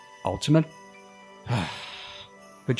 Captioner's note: sigh